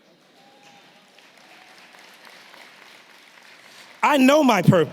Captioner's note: audience clapping